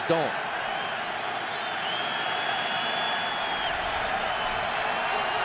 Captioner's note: cheering